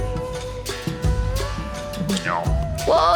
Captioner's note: noms